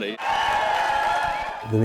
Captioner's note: cheer